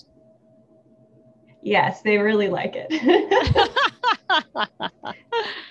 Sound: both laughing

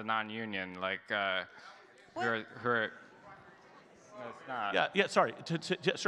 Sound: audience chattering

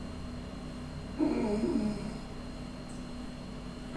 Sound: pain noises

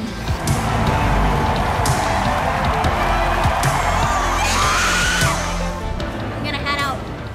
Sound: crowd cheering

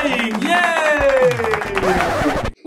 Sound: applause

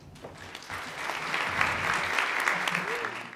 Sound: audience applauds

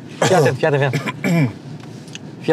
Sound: coughing

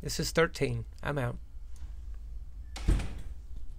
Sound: door Closing

